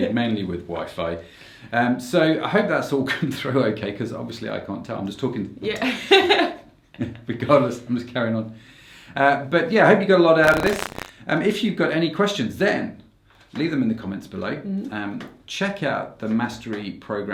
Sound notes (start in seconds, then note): 5.8 laughs